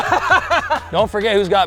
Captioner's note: laughing